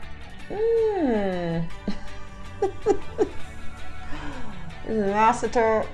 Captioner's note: laughs